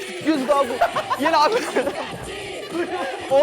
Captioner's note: elderly tired from laughing too much